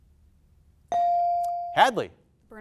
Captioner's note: buzzer dings